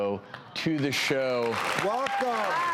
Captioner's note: crowd applauding